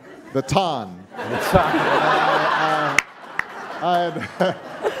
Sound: audience laughing

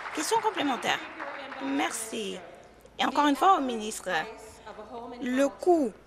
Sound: applause

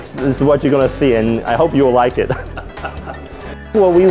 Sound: laughing

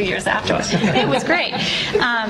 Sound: laughter

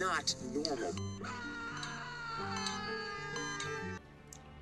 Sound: ABED screaming and heartbeat monitor noises

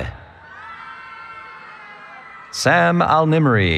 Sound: cheering

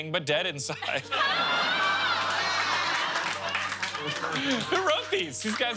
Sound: laughter

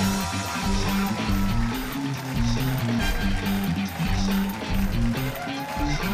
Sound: cheers and applause

